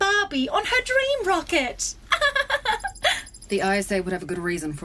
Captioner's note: Aurelia giggles in a patronising manner